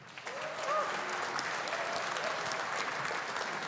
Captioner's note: audience applauding